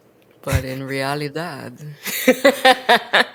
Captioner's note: laughs